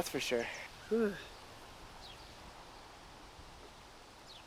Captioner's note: birds chirping